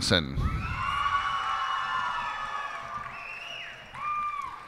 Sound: cheers and applause

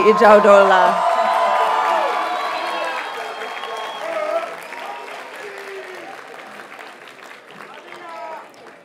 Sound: audience cheers and applauds

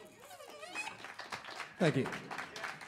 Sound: aplausos; applause; hablando en Inglés

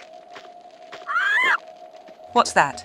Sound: bird noises

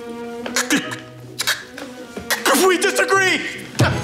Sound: Republican stammering

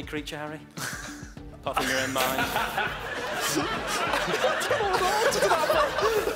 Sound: laughing drowns out speaking

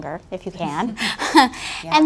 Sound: laughs

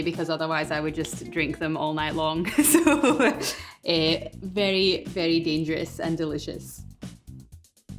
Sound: ha ha

